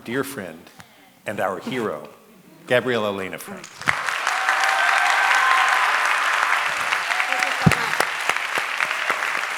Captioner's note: applause